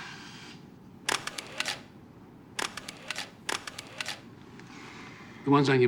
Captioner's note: camera shutter clicks